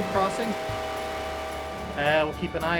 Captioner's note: train whistle blowing